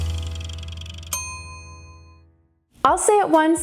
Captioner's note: ding